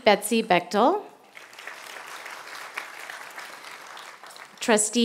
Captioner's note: applause